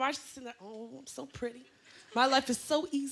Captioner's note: laughter